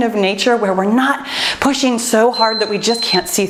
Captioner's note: timer beeps